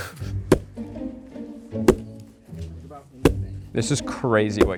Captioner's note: gentle orchestral music; rock thudding